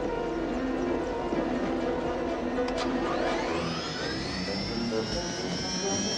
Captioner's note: helicopter engine starts